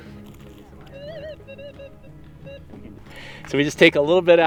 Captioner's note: metal detector beeping